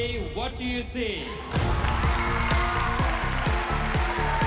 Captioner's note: cheering